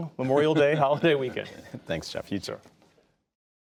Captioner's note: laughter